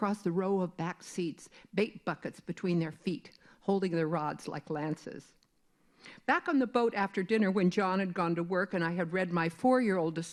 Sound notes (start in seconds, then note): none